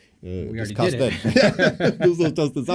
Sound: laughter

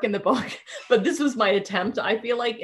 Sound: chuckling

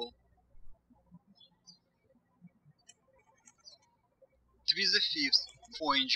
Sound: birds chirping

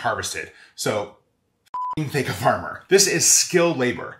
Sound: beep

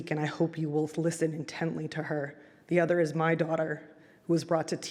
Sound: none

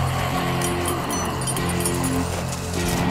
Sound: zombies growling; metal clanking; music intensifying

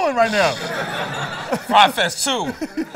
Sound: laughter

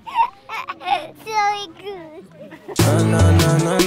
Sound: laughing

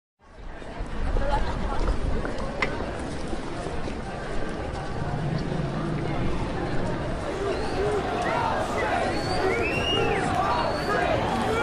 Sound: sounds of crowds, tension, someone shouts 'Nothing about us without us'

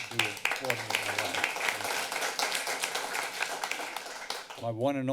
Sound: applause

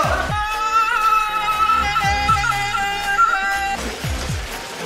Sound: cries like a goat

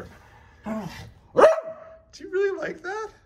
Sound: Oliver barks

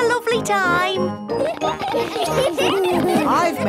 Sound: laughter

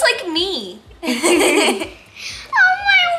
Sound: laughing; laughs

